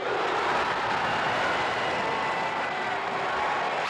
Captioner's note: crowd cheers